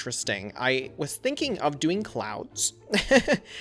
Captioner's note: laughs